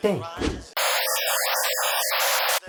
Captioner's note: ear bleeding sounds